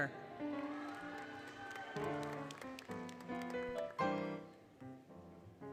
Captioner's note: applause, Cheering, Music